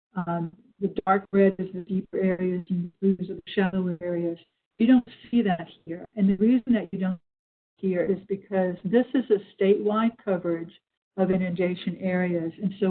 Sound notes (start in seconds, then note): 2.3 distorted audio